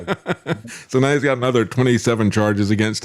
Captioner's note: laughing